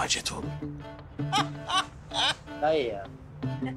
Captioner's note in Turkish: Gülüyor